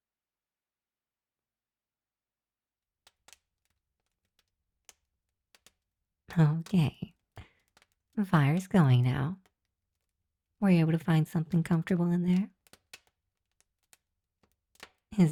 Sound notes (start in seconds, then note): 3.1 fire begins to crackle